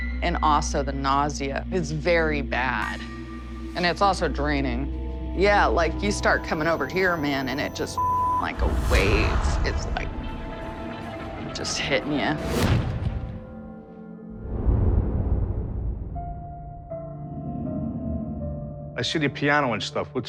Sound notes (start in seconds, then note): 12.8 whoosh